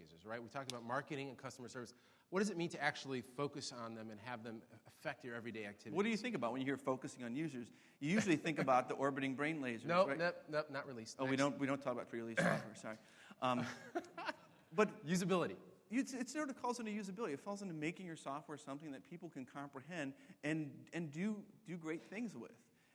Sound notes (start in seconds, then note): 13.5 laughs